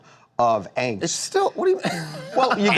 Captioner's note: laughter